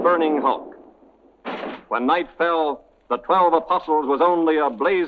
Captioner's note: crashing